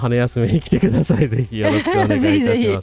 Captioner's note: laughter